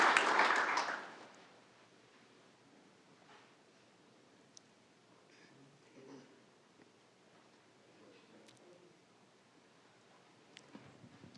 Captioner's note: applause